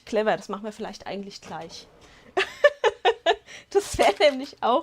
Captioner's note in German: Lachen